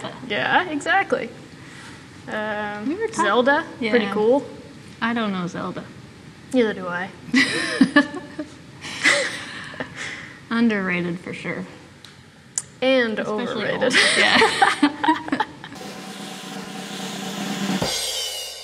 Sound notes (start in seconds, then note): 7.4 laughs; 13.8 laughs; 15.7 drum rolling